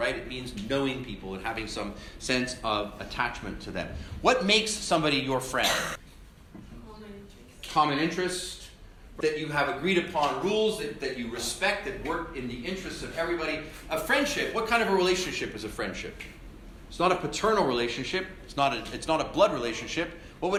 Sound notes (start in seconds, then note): 5.6 cough